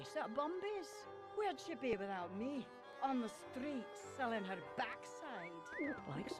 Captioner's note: man whistles